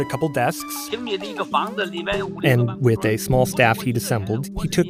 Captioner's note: speaking Mandarin